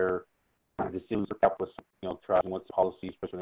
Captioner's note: feedback drowning out speech